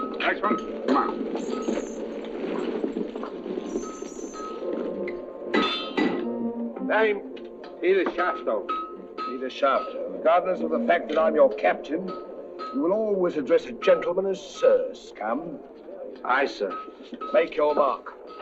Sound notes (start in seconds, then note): 5.1 metal clanging